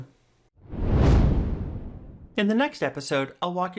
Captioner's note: air whooshing